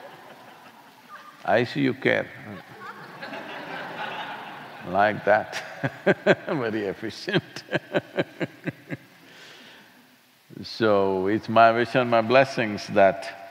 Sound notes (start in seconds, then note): 2.4 laughter; 7.2 laughs